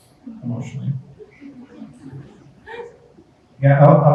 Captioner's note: group chuckles